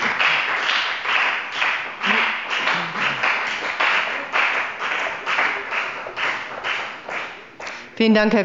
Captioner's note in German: Beifall bei der FDP